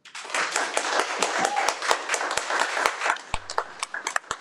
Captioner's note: audience applauds